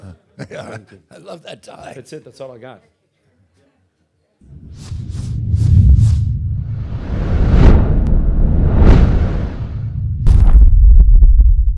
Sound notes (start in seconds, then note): 0.4 Robert laughing; 4.4 air whooshing; 7.3 logo thundering